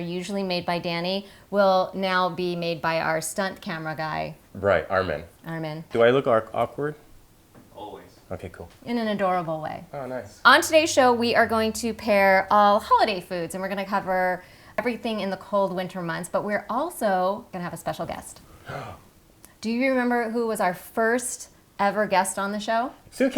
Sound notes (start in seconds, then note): 18.5 gasp